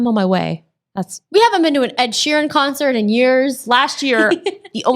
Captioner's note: laughs